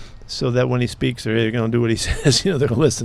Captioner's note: laughs